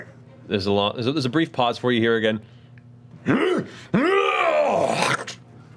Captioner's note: muffled yelling